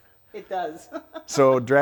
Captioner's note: laughs